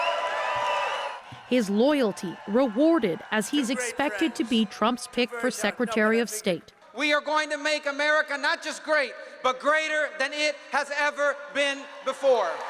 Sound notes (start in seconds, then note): 3.3 cheers and Applause